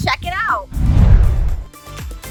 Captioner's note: woosh